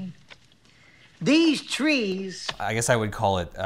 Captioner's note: picture thuds